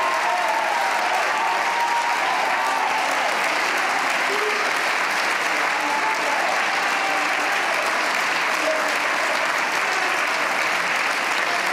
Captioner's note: cheers and applause